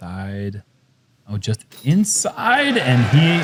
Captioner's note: crowd cheering